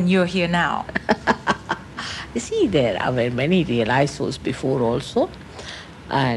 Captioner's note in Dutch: lachend